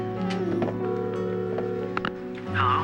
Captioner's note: line ringing